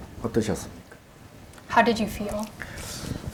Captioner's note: speaking Korean